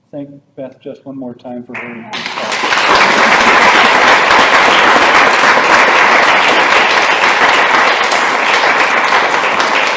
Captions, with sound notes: thank Beth just one more time for her great presentation? (applause)